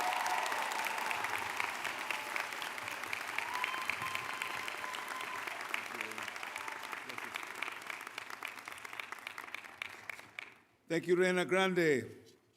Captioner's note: applause